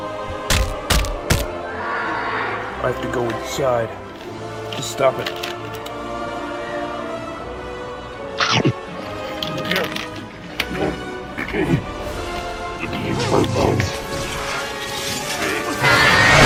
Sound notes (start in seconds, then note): 0.4 multiple bone-cracking punching; 1.5 shriek; 8.7 chomp; 10.6 vomitting